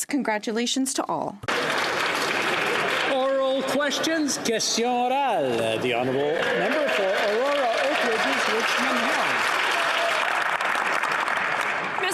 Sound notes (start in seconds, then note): 5.8 some Applause; 8.4 speaking French